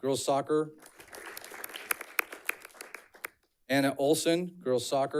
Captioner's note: audience clapping